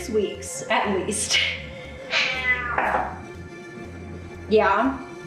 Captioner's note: cat meowing